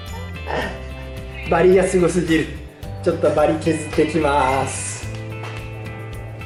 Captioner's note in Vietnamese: cười